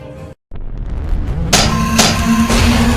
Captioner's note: tentacle beast rumbling; scorpion beast clanking